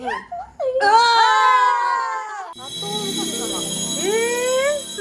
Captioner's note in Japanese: 叫び声